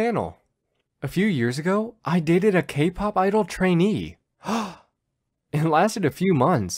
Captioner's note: gasp!